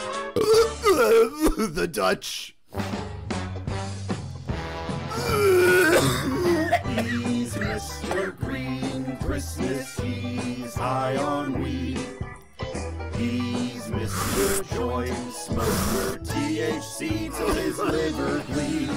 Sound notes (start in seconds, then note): 0.3 Belch; 0.8 slight cough; 5.1 inhale; 5.2 violent cough; 5.2 violent Coughing and Wheezing; 13.0 inhale; 16.0 distant coughing